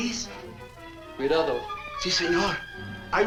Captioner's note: Thorne speaks Spanish